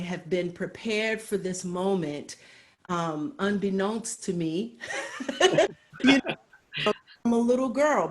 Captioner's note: laughs